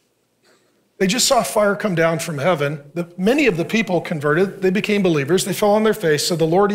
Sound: none

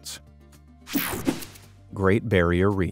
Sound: screen whooshing

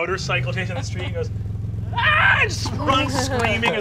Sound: screaming

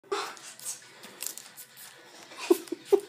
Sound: giggles

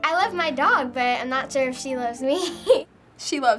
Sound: giggling

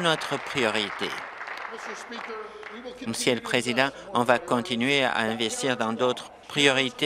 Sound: applause

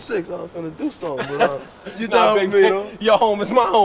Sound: laughs

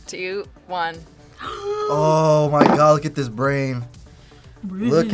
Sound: gasps

